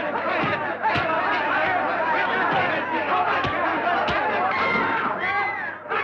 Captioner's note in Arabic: يستمر الحشد في الصراخ بحماس